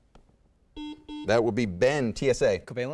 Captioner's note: beeping